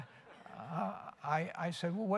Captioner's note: laughter